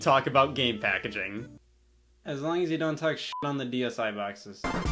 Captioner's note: beep